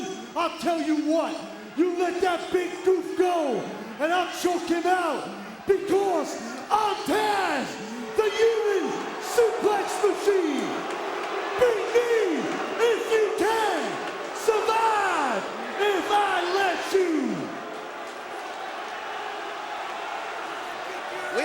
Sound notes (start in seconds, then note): 10.4 crowd booing; 18.3 crowd chattering